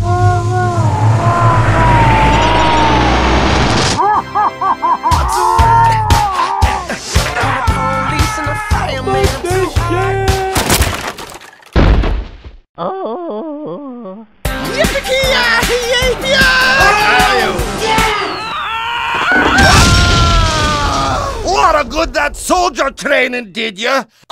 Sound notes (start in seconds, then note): 10.6 unusual crashing sound; 18.2 unusual yelling noise